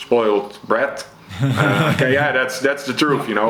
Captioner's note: chuckles